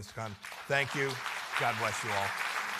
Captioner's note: applause